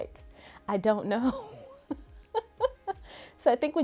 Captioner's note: laughs